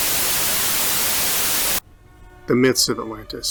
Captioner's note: Static